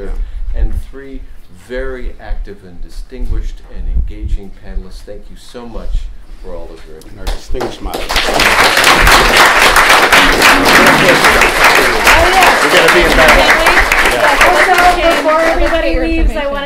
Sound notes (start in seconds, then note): 8.7 applause